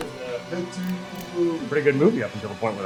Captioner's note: gun clicks